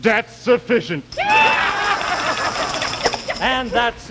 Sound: laughing

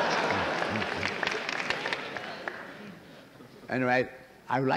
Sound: laughter; applause

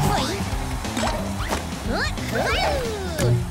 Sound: grunting

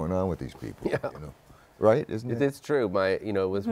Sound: chuckling

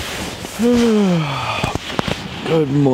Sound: yawns

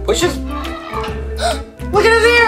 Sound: elephant trumpets

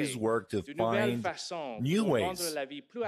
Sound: speaking french

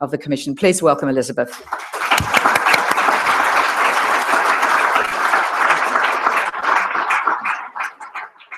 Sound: applause

